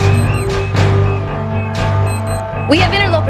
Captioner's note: beeping